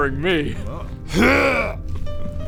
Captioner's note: hrrgh